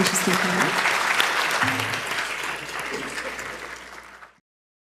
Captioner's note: audience applauding